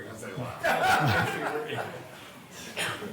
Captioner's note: laughter